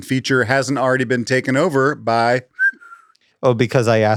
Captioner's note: whistles